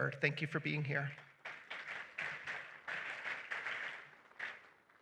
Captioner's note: applause